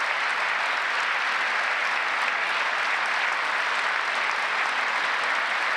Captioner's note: applause